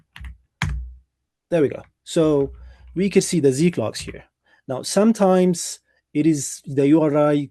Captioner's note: keyboard clicking